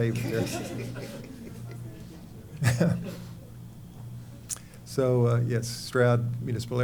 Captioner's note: laughter